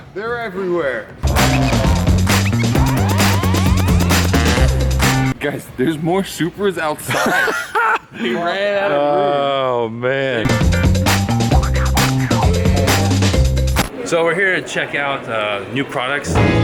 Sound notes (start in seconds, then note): 1.2 up beat hip hop music; 7.1 man laughing; 10.4 up beat hip hop music